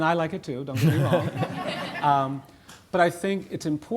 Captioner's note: audience laughing